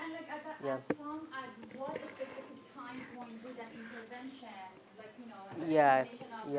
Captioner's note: talking distantly